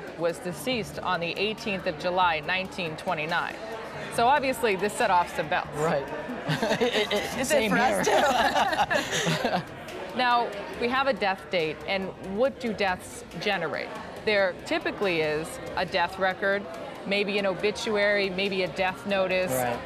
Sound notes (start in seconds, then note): 7.8 laughter